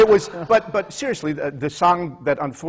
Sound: laughter

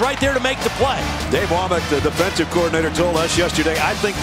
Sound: voiceover

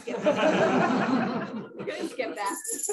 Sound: laughter

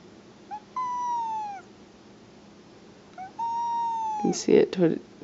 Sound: cat meows softly

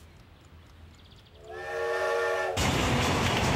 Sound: <i>train whistle blowing</i>; <i>engine chugging</i>

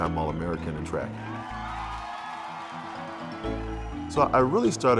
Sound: crowd cheering

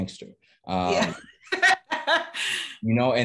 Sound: laughing

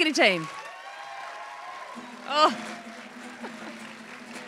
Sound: applause, cheers

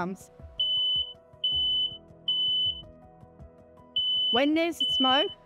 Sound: alarm beeping

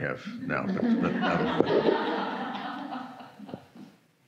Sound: group laughs

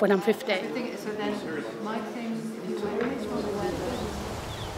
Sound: chatter; wind whips

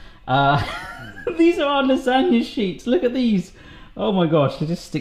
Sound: laughs

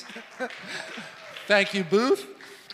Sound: laughs; congregation claps

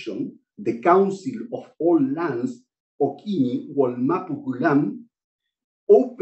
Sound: non-english speech

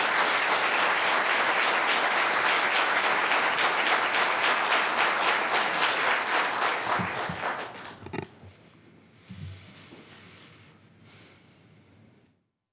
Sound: applause

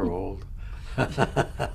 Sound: laughs; laughter

